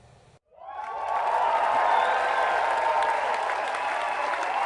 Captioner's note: cheering